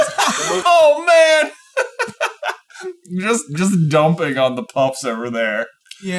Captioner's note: laughing